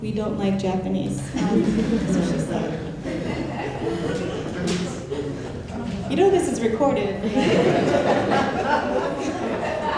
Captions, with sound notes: - We don't like Japanese is what she said. (audience laughing) You know this is recorded, right?